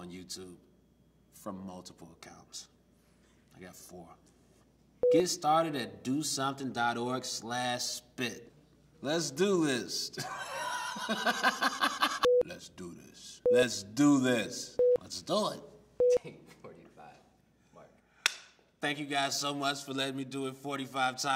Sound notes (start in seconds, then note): 10.2 laughs